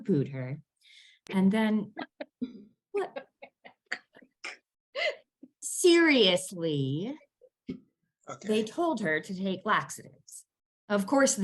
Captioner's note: all laugh at the pun